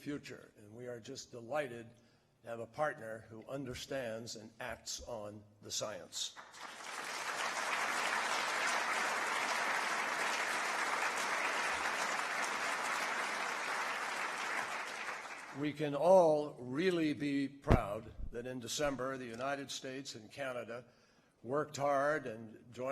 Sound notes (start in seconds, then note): 10.8 applause